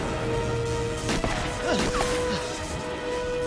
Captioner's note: gunshots